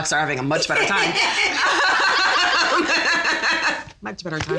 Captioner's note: all laugh